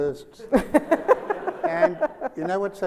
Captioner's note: Sonia laughs